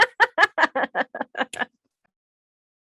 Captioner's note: laughs